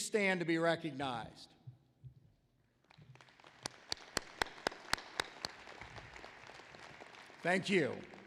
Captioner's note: applause